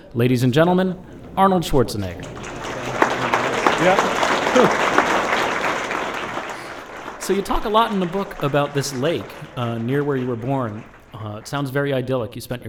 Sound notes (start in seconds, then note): 2.0 applause